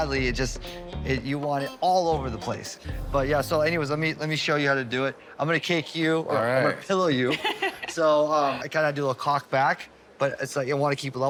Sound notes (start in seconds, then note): 7.3 laughs